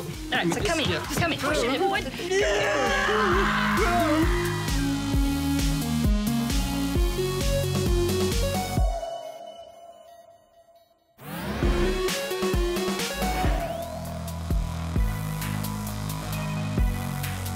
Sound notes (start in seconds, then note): 2.2 yell; 2.4 whimpers